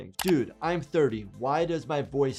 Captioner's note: keyboard keys clicking